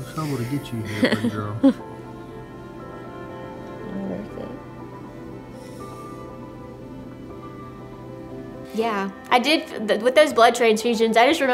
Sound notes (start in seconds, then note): 1.9 laughs; 5.5 melodic music